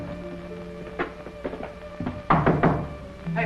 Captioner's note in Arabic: طرق